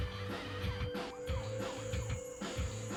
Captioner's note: sirens in Background